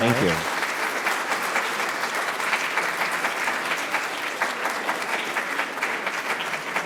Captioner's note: audience applauding